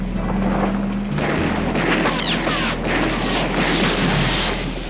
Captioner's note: gunfire